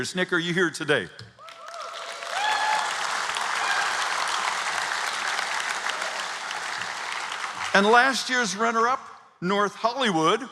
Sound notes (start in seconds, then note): 1.4 applause